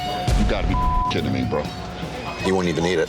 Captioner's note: beep